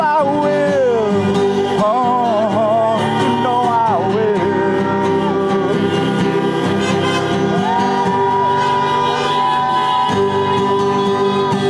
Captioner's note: applause